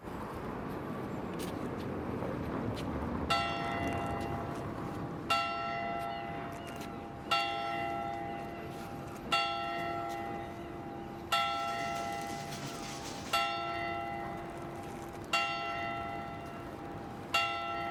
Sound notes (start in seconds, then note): 3.3 church bells